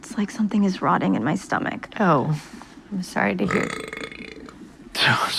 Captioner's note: burps